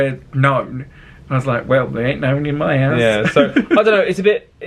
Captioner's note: laughs